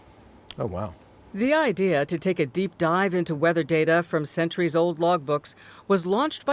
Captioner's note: voice-over